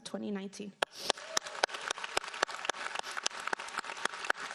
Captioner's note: applauding